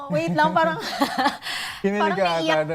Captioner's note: chuckles